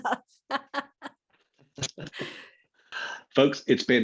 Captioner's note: laughing